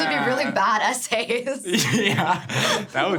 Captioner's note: laughs